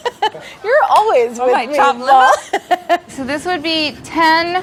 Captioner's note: laughter; laughter